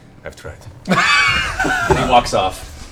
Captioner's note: laughs; laughter